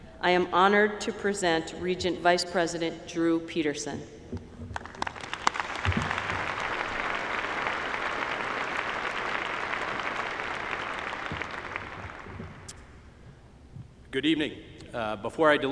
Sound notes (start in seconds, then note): 4.7 applause